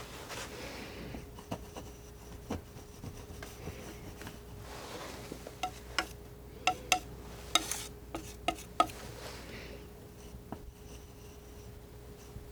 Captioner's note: scratching